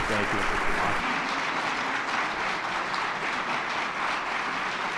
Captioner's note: attendees clapping